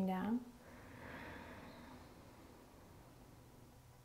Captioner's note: inhaling